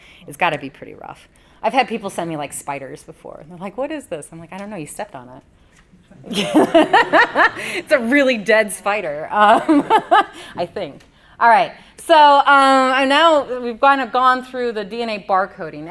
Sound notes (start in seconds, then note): 6.3 audience & Presenter laugh; 9.6 laughs